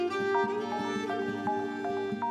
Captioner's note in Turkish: Telefon çalıyor